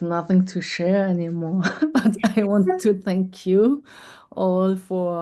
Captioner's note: laughter